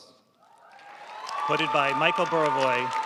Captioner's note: audience cheering and applauding